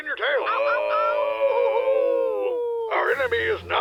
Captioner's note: more howling